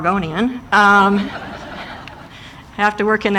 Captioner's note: audience laughing